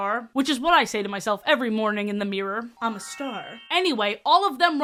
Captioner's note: sparkling sfx